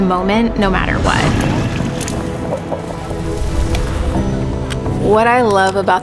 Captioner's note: crocodile snarls